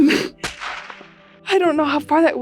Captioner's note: gun bangs